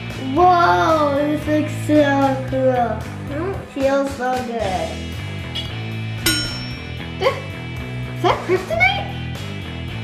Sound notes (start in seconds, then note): 0.0 mischievous guitar music; 6.2 ding